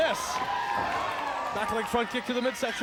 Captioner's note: audience applauds and cheers